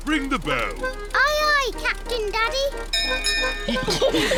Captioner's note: bell rings; all laugh